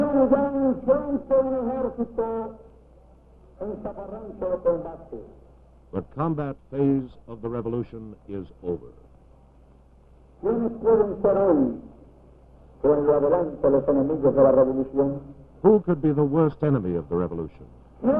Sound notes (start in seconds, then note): 10.6 speaks in Spanish